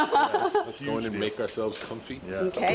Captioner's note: laugh